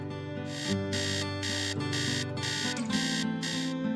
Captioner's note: alarm